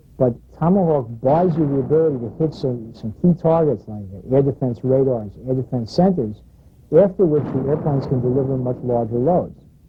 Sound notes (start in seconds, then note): 7.3 missile exploding